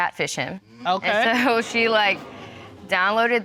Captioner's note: audience exclaims